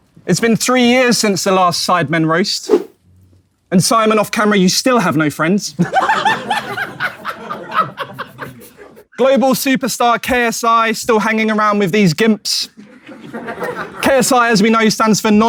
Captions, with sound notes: - It's been three years since the last Sidemen Roast. And Simon, off-camera you still have no friends. [people in room laughing] Global superstar, KSI, still hanging around with these gimps. [audience laughing] KSI, as we know, stands for